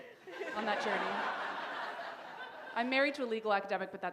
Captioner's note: laughter